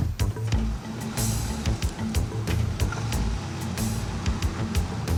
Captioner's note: cars rumbling